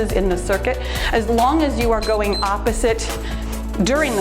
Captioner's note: timer beeps